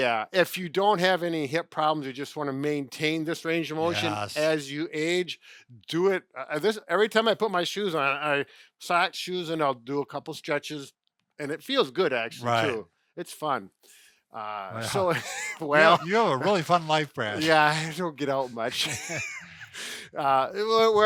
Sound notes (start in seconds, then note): 14.8 chuckle; 18.4 laugh